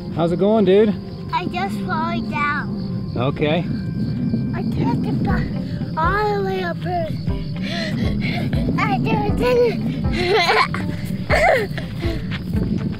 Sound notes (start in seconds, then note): 7.3 panting; 10.8 laughs